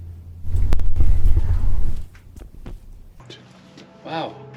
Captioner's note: disembodied Voice